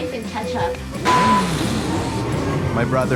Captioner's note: car sound effects